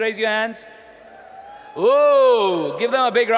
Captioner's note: audience cheering